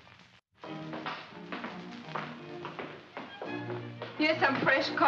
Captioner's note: footsteps; classical music plays